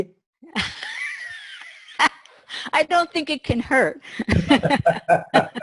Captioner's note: laughs